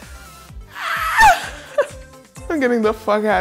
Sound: screaming

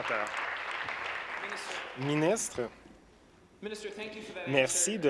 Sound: applause

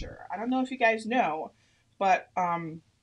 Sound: none

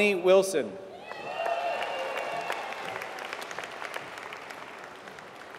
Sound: applause

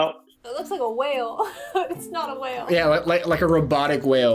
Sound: laughs

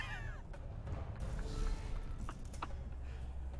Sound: laughs

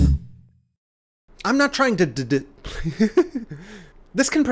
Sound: laughs

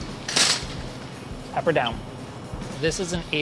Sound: clattering

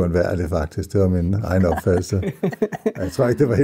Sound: laughs

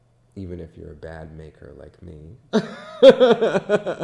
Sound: laughs

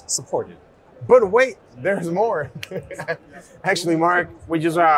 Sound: chuckles

